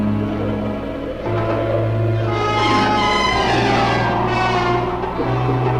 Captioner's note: wind blowing swiftly